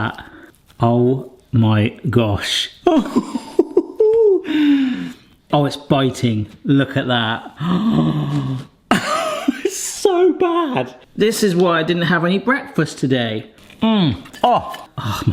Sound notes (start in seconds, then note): 2.8 chuckling